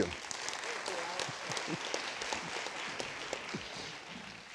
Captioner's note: students applauding